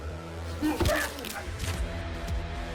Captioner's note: bones snapping